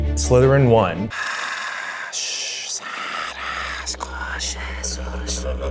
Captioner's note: speaking mock Parseltongue